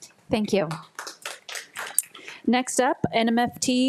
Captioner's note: attendees clapping